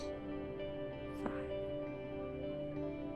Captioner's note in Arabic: بهدوء